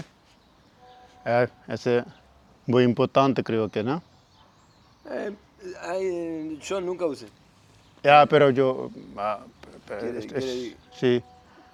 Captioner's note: speaking Spanish